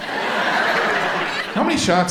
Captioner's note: audience laughs